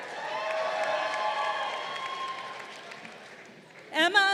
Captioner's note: crowd cheering